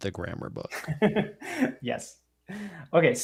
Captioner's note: laughs